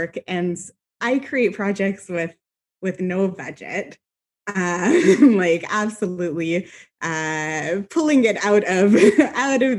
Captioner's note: laughs